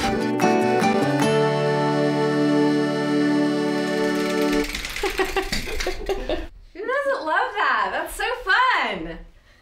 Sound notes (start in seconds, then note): 0.0 playful music; 4.8 laughing